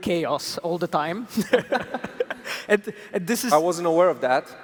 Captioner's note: laughter